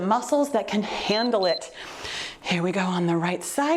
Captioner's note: timer beeps